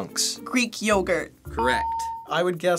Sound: ding

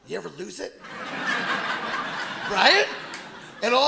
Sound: audience laughing

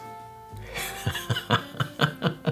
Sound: laughing

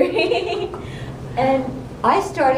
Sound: chuckle

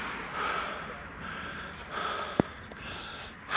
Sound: breathes heavily

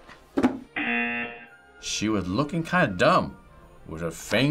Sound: buzzer

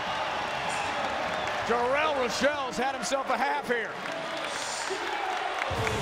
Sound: whistle

